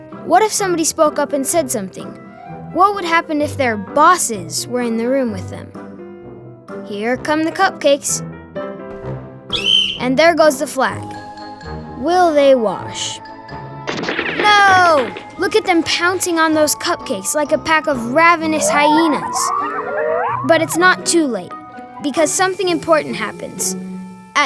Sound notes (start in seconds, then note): 9.5 whistle blowing; 18.1 hyena noises